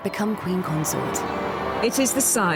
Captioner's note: crowd cheering